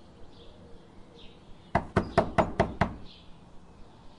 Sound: knocking on the door

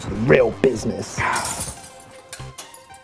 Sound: window Smash

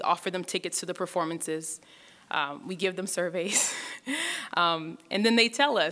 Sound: laughs

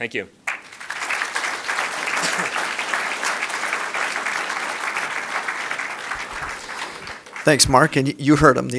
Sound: applause

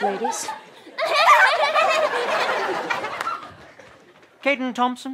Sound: laughs

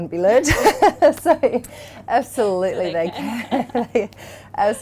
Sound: laughs; laughter

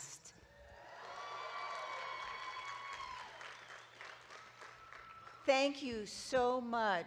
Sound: audience clapping and cheering

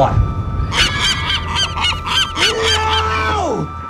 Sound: aggressive seagull noises

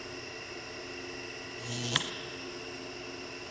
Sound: fuse blows

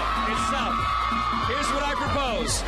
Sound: cheers and applause

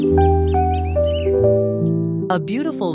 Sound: birds are chirping

